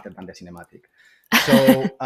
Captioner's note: laughter